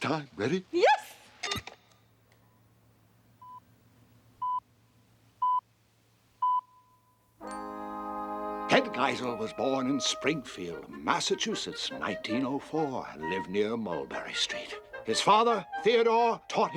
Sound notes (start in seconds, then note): 2.6 beeps; 3.9 beeping